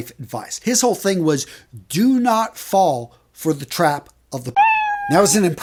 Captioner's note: meowing sound